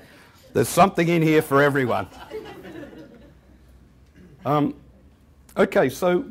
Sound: laughter; chuckling

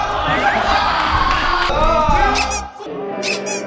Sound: the members are laughing out loud?

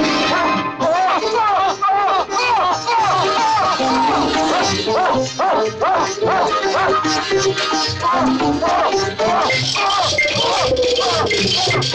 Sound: cheering

